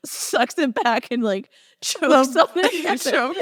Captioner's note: laughing uncontrollably